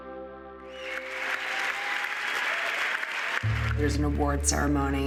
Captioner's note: cheering and applause